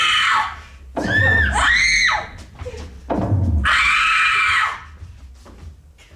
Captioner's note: click, scream; screams